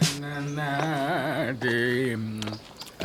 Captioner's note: humming